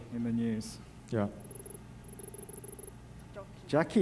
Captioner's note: text beeping